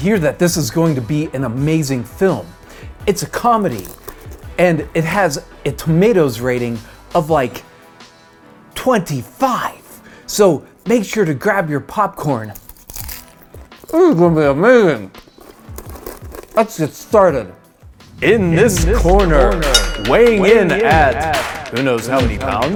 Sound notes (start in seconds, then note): 17.0 boxing announcer voice with echo, sports music; 19.6 boxing bell ring